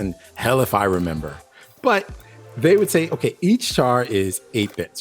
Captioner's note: none